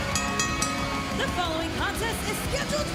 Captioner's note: bell rings